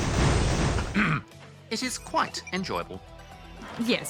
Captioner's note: clears throat